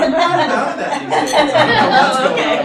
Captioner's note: audience laughing